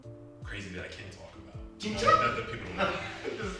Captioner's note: speaking foreign language; chuckling